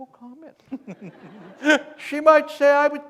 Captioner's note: laughter